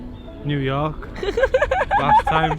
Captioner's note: partner laughing